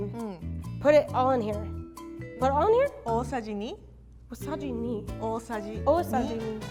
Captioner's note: speaks in foreign language